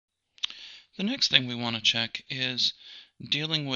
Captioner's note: voiceover